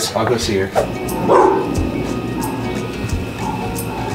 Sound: Greta barks

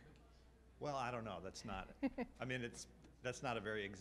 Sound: laughs

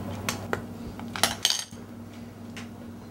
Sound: drops spoon

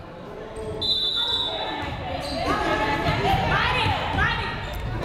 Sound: whistle blowing

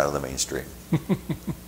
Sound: chuckling

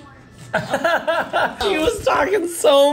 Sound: laughs

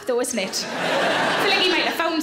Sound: audience laughs

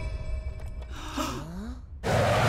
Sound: gasping

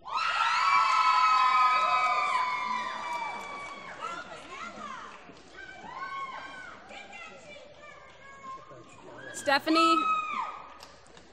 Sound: cheering

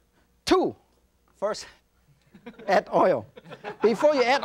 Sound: audience laughs

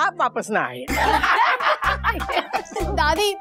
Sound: laughing

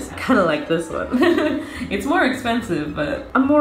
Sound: giggles

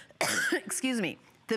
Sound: coughing

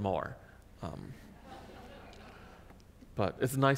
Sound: audience laughs

